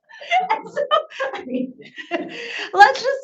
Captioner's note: laughs